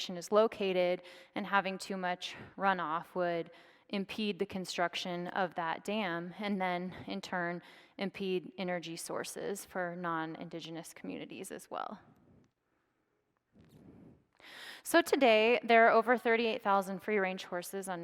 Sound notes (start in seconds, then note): none